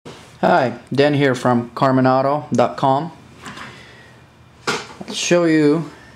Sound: voiceover

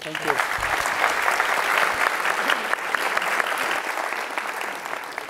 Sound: audience clapping

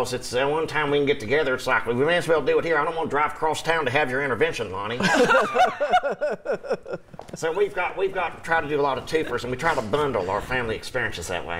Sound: laughter

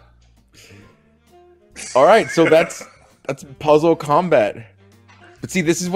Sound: laugh

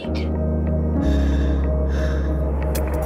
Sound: breathing

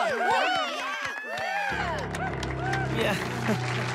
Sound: scattered cheers, applause; applause increases

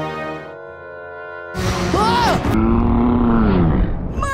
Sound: screaming

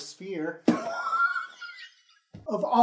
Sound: laugh-wheezing

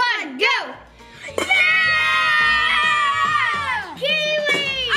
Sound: excited yelling

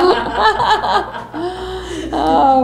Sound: laughter

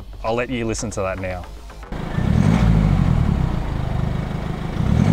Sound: engine noise

